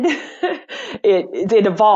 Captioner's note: laughs